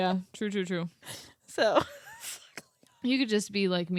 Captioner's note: laughs